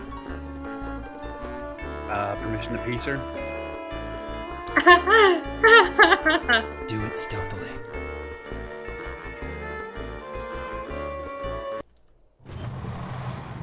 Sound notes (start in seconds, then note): 4.7 laughs